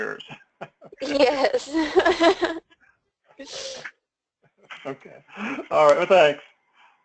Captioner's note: laugh